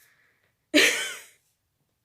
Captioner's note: laughs